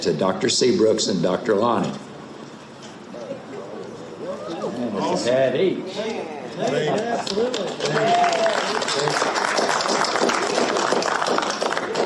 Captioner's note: audience clapping